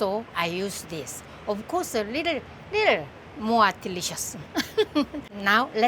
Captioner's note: laughs